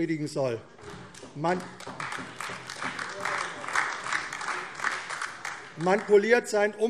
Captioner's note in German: Beifall AfD